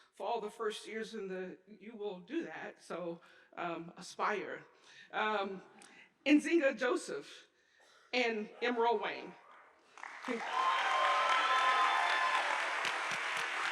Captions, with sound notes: For all the first years, you will do that, so aspire. Nzingha Joseph and Emerald Wang. (audience applauding)